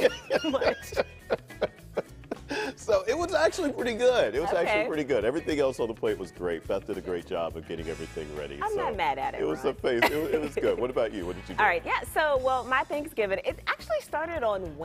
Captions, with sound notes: AND THEN, LIKE, THE TASTE WAS A MIX OF, LIKE, DARK MEAT TURKEY WITH HAM. IT'S TOO MUCH GOING ON. [ LAUGHTER ] GOOD. IT WAS ACTUALLY PRETTY GOOD. EVERYTHING ELSE ON THE PLATE WAS GREAT.